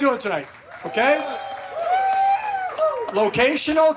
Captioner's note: audience claps and cheers